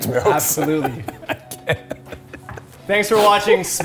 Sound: laughter

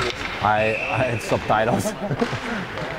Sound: chuckles

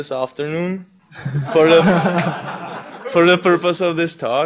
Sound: laughter

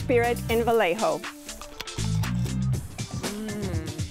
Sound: crunches

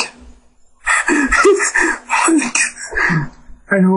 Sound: weird Breathing

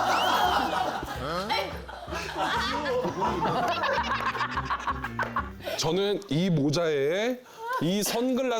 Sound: laughs

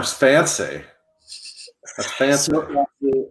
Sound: laughs

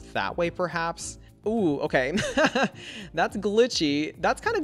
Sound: laughs

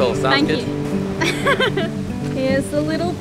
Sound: laughs

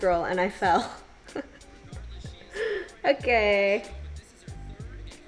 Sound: laughs

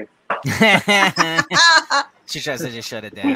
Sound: everyone laughing

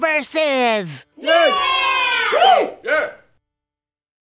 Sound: lackluster Cheering

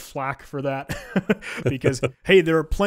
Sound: both laughing

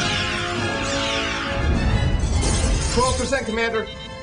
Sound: explosion

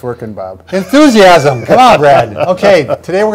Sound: laughing

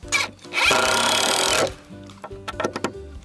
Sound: drilling

